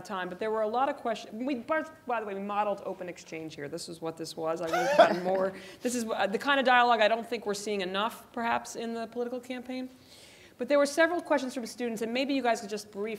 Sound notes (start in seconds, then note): 4.7 laugh